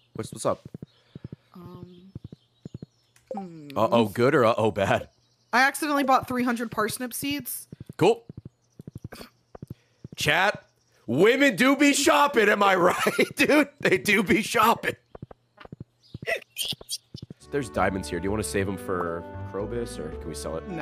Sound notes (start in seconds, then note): 12.8 laughs; 16.3 laughs